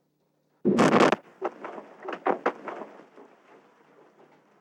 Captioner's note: explosion